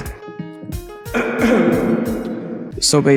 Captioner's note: clears throat